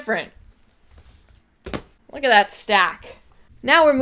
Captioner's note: thud